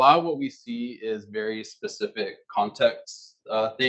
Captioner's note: male Voice